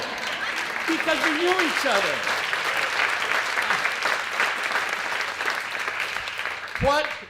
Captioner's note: applause